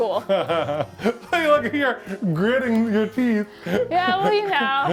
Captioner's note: laughs